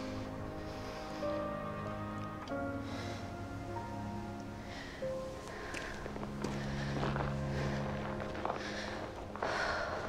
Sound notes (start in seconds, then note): 0.2 light music; 4.5 heavy breathing